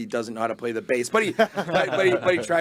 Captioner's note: group laughing